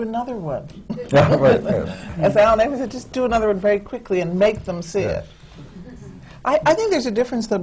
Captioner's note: laughter